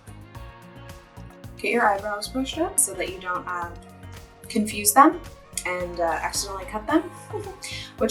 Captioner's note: small laugh